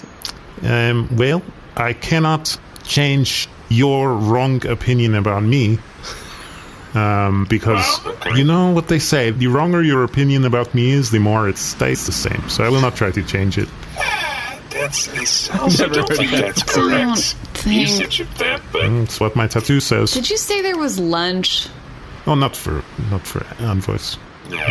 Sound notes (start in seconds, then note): 13.8 sighing